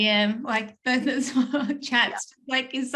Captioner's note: chuckles